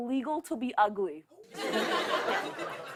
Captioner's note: laughter